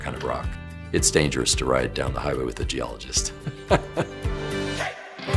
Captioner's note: laughs